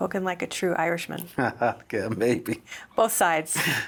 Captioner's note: laughs